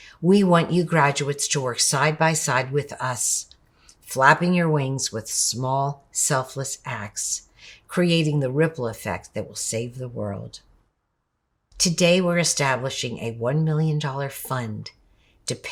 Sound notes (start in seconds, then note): none